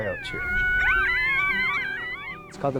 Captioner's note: coyotes howling